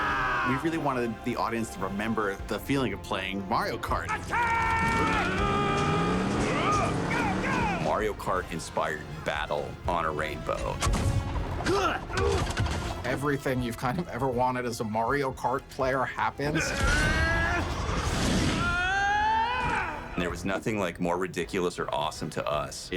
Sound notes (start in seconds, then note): 0.0 laughs; 4.0 all grunting; 11.6 grunting; 16.9 straining; 18.4 shouts